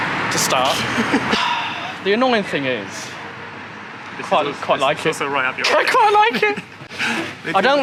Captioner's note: laughter